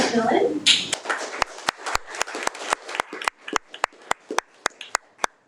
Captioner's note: audience applauding